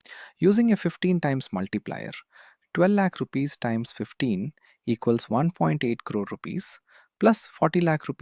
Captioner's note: thoughtful